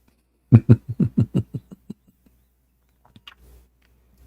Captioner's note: Ketawa